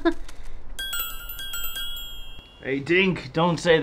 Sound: laughs; tink bells

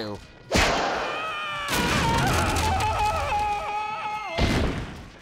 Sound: screaming

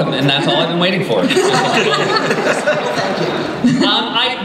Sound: laughter

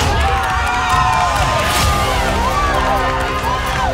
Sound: audience cheering

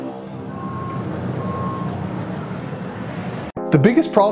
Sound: airplane sounds

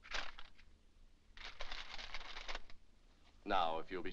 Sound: paper rustles

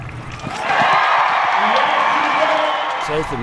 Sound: cheering

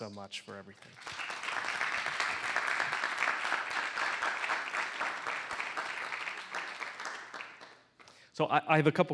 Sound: applause

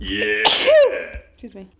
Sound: sneezing

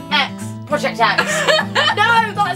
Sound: laughs

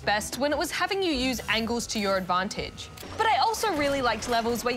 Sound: none

